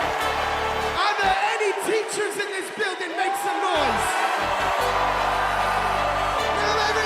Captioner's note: cheers and applause